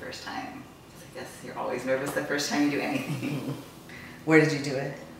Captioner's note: laughs